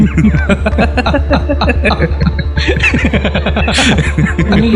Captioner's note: laughin together